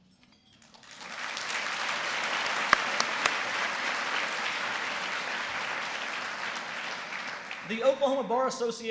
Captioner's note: applause